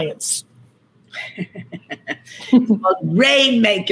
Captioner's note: chuckles